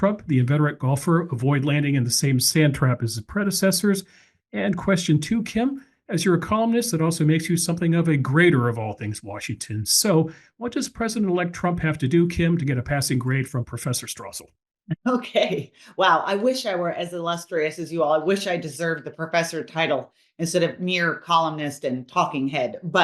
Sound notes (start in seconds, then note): 15.8 laugh